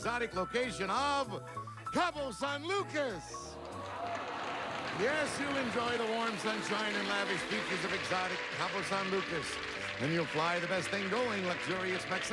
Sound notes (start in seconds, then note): 3.8 audience cheering